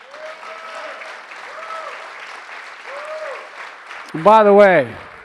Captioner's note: applause